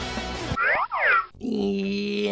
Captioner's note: slide whistle